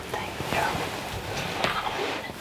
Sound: whispering

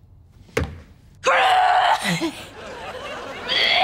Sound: coughing

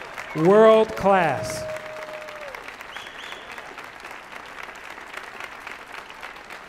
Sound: audience applauding

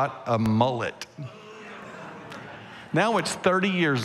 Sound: congregation laughing

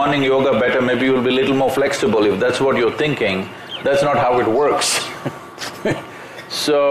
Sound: laughs

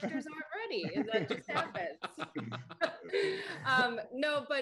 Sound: laughter

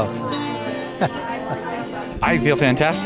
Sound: laughs

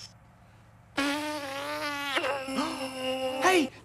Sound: blows raspberry

